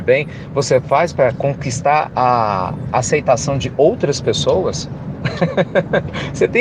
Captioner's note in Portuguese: Risos